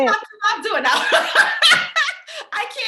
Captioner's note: laughs